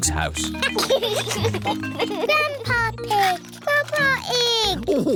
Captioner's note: giggles